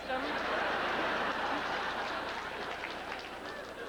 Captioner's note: howling laughter